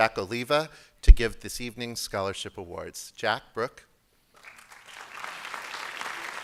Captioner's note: applause